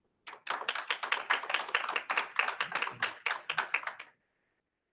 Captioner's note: attendees applauding